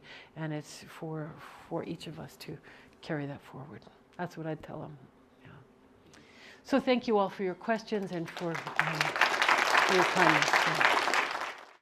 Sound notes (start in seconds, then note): 10.4 applause